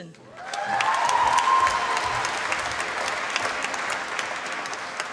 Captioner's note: applause